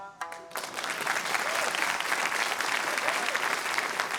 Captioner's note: applause